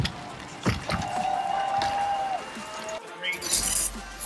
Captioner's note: audience cheering